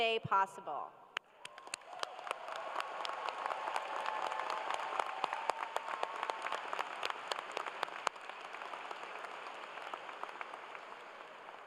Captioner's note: cheers and applause